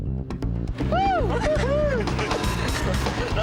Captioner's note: whooping